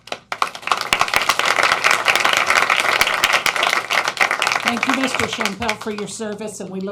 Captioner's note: applause